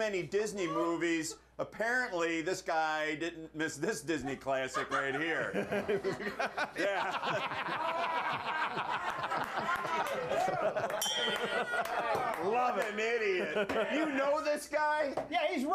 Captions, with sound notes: AND THEN HE HAD THE NERVE TO SAY THAT WE WATCH TOO MANY DISNEY MOVIES. APPARENTLY THIS GUY DIDN'T MISS THIS DISNEY CLASSIC RIGHT HERE. [BELL RINGS] [Laughter] - LOVE IT! - WHAT AN IDIOT! YOU KNOW THIS GUY?